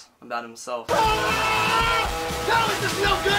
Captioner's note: screaming